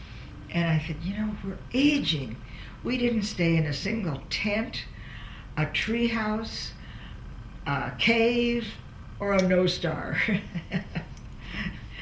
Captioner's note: laughs